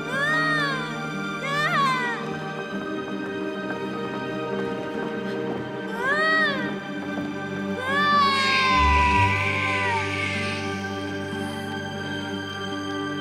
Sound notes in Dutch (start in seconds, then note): 0.0 Catherine schreeuwt; 7.8 huilende baby